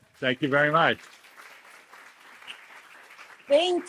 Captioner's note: applause